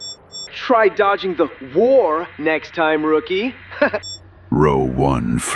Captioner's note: laughs